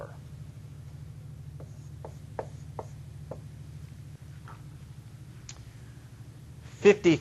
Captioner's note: writing on whiteboard